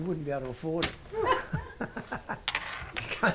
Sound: laughs

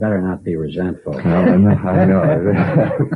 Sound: laugh

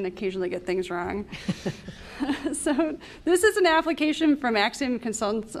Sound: laughter

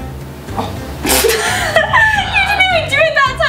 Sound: laughter

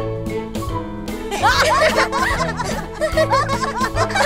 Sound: all laugh

